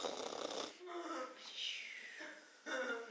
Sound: snoring

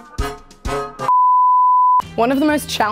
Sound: beep

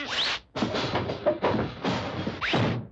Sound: clanging

